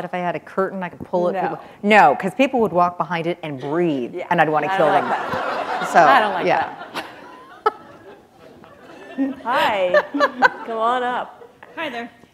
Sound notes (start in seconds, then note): 4.7 laughter